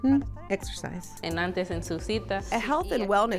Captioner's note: speaking in foreign language